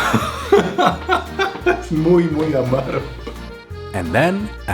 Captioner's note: laughs, speaks in Spanish